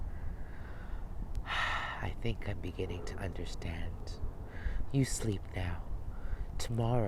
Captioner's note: sighs